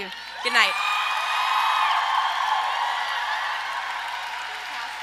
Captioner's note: audience applause